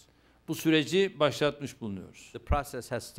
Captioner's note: non-english speech